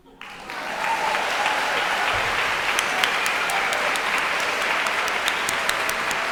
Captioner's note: audience cheering and applauding